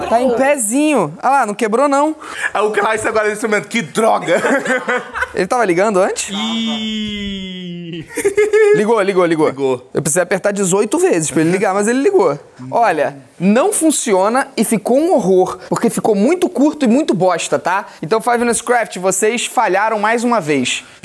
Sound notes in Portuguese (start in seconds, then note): 4.2 risadas